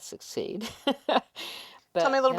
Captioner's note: laughs